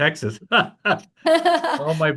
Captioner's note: laughing